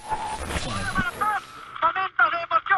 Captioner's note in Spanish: Voz en off